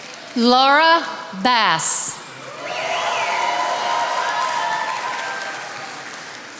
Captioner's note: attendees applauding